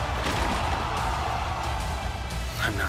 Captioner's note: crowd cheering